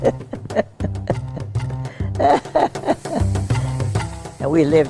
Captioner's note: she laughs